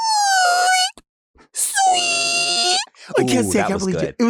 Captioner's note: imitating screeching noise